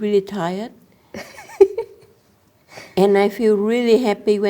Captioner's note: laughs